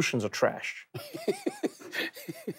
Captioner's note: Charlamagne laughs